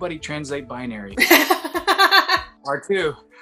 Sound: laughs

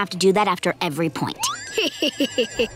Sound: laughing

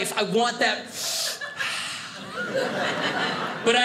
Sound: sighing; sniffing

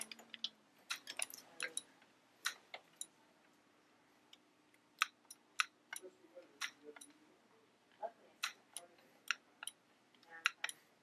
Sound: clicking noise and background chatter

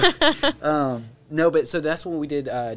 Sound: laughing

